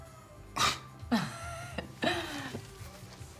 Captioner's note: bente laughing